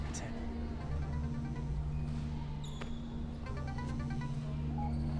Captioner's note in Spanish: Suena el teléfono